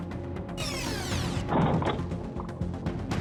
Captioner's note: rewind squeaks; loud bump